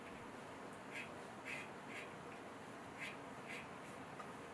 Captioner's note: pen scratching